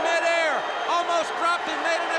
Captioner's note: crowd cheering